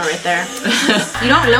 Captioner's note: laughs